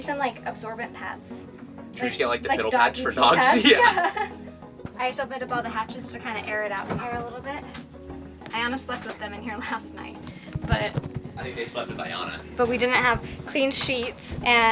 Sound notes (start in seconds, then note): 3.4 chuckles